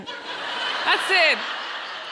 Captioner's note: audience laughs